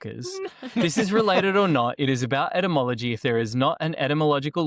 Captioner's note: laughter